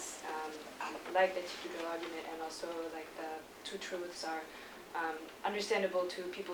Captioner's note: non-english speech